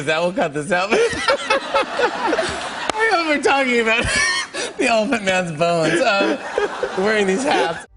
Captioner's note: laughter